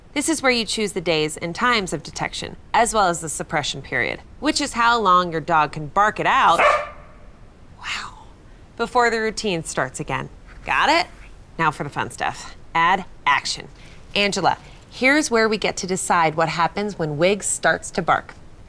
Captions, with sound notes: This is where you choose the days and times of detection, as well as the suppression period, which is how long your dog can bark it out [loud bark] Wow. before the Routine starts again. Got it? Now, for the fun stuff. Add Action. Angela, here's where we get to decide what happens when Wigs starts to bark.